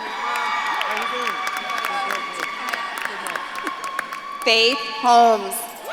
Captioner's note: audience claps and cheers